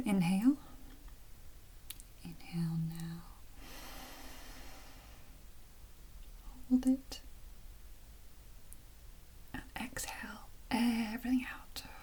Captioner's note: breathes out